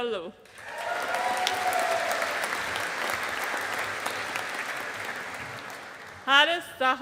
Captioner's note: audience applauding